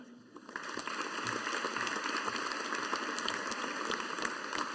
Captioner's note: audience applauding